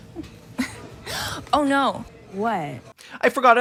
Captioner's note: gasps